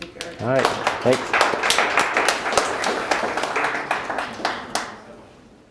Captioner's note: audience applauds